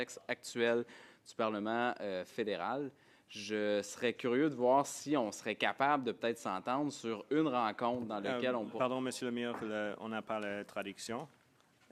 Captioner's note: speaking French